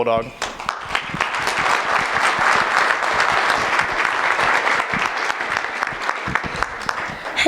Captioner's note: applause